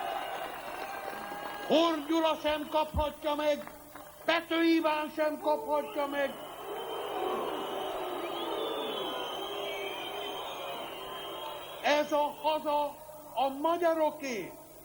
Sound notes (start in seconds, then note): 0.0 applause; 10.1 blowing